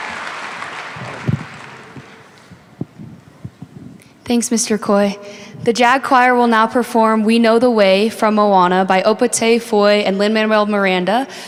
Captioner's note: applause